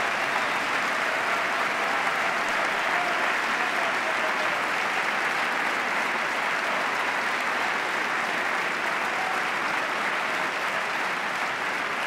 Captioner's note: applause